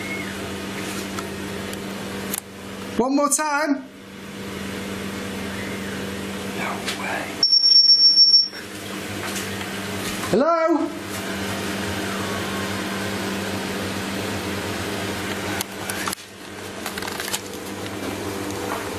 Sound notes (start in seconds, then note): 0.0 ghostly whistle; 5.4 ghostly whistle; 7.4 machine beeping; 12.4 ghostly whistling